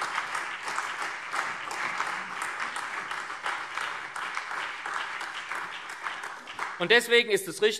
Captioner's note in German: Beifall SPD, CDU, BÜNDNIS 90/DIE GRÜNEN, AfD und Freie Demokraten